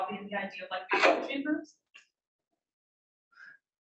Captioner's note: speaking faintly